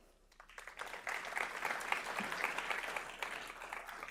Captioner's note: audience applauding